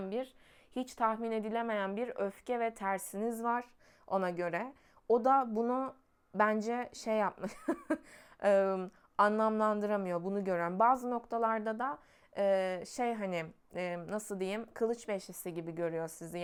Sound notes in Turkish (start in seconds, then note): 7.4 kahkaha